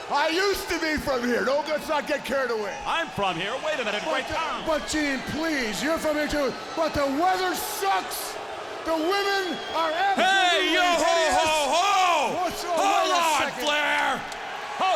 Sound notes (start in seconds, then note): 8.1 crowd booing